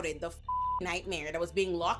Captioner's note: beep